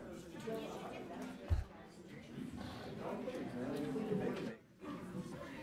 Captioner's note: low chatter continues